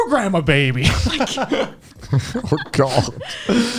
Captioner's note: laughs